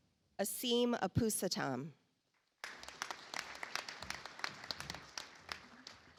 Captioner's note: audience applauds